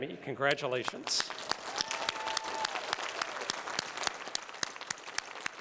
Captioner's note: applause